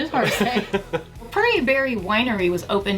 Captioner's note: laughing